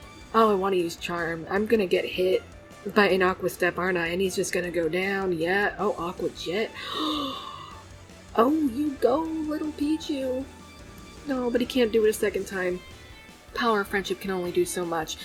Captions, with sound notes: Oh, I want to use Charm. I'm gonna get hit by an Aqua Step, aren't I, and he's just gonna go down. Yeah—oh! Aqua Jet. *gasp* Oh!! You go, little Picchu! Aw, but he can't do it a second time. Power of Friendship can only do so much.